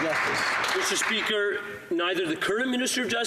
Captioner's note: some Applause